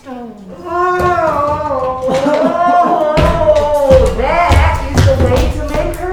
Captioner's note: groaning